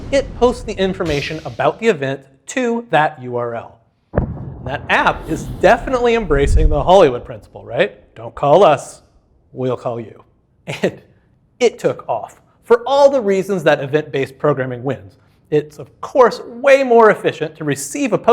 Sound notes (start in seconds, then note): 4.1 icon exploding